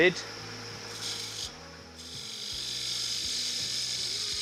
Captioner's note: machine whirring